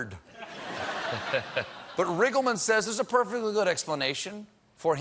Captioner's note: laughter